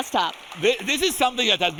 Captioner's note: audience applauding